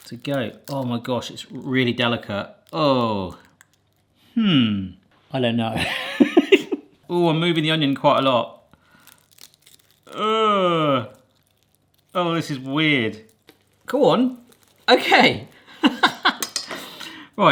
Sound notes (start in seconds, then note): 5.8 laughs; 10.1 groans; 15.8 laughs